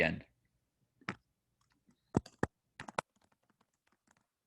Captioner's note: typing